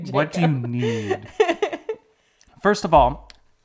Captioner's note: laughs